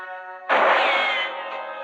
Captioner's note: gunshot